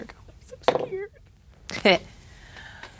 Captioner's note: dice rolling